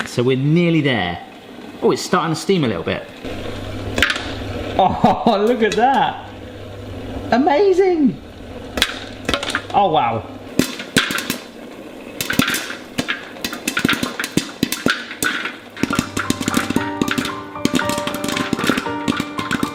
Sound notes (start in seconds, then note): 3.9 pop; 12.0 popping; 15.8 nostalgic music